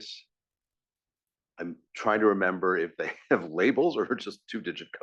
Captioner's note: laugh